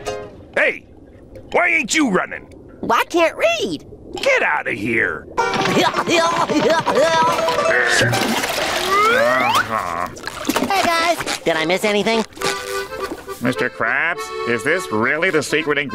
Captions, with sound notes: Hey, why ain't you running? I can't read. Get outta here. [grunting] [groaning] Hey, guys. Did I miss anything? Mr. Krabs, is this really the secret ingredient